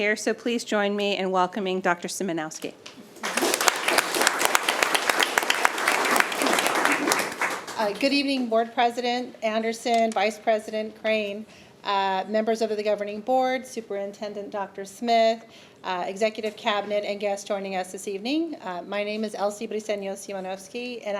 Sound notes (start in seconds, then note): 3.1 attendees applauding